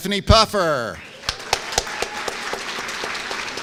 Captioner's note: applause